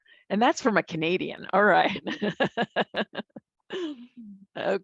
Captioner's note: laugh